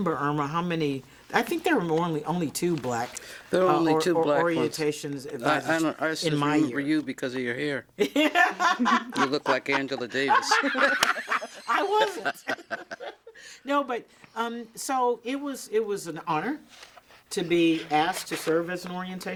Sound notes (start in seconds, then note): 6.2 laughing; 8.0 all laughing; 8.9 hands clapping